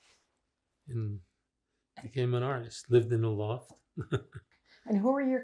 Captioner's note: laughing